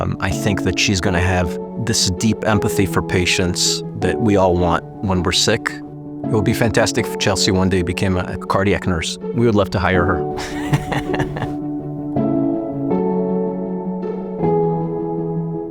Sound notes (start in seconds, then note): 10.4 laughs; 12.2 gentle music continues